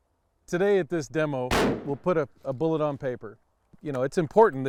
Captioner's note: shot blasting